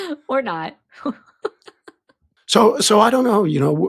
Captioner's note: chuckles